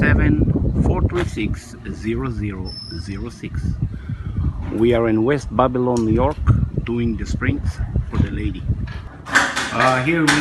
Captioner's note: garage Door